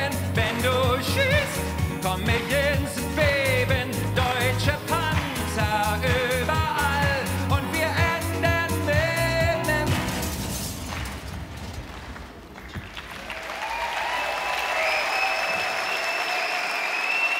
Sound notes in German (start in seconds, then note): 9.9 Knall; 12.0 Jubel, Applaus